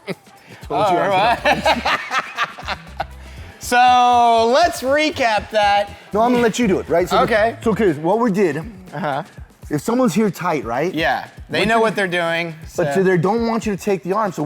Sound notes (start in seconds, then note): 1.0 laughs Nervously